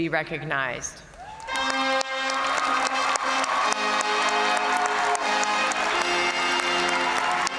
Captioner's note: crowd cheering; triumphant music